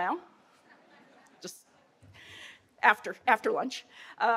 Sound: audience chuckling

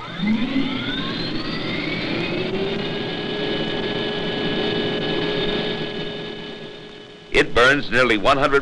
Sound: engine revs

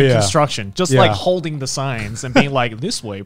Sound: laughing

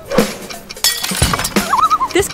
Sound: loon call

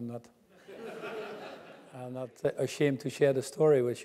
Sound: laugh

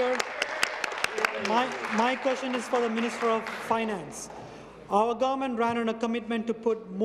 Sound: applause

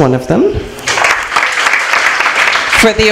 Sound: applause

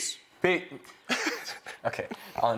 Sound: laughter

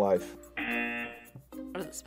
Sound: buzzer

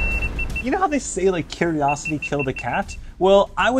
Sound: more Beeps

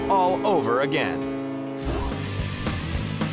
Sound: ship horn blares; fast-paced rock music

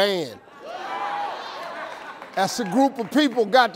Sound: crowd cheering

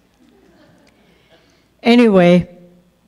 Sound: audience chuckles

